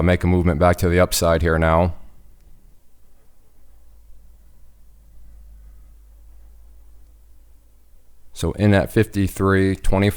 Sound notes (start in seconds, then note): none